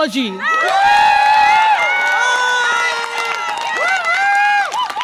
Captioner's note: audience applause and cheer